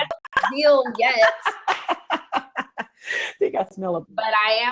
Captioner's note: both laugh